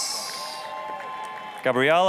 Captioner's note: applause, cheering